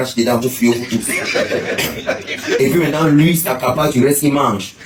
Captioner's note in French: rires